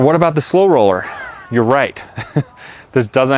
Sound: laughs

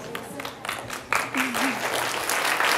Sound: applause

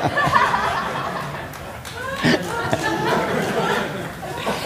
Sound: audience laughter

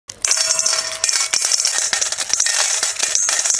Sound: tinkling

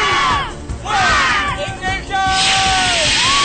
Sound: cheers from crowd

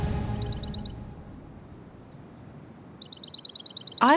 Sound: birds chirp

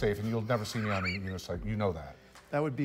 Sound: laughs

